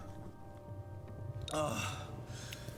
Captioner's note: sighs